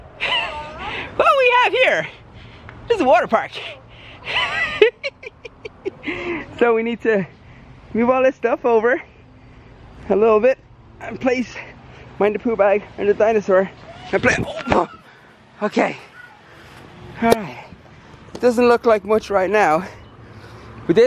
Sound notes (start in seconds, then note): 4.2 chuckles